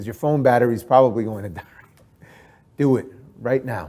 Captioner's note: chuckles